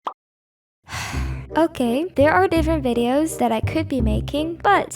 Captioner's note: exagarrated sigh